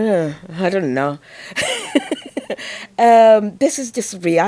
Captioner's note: laughs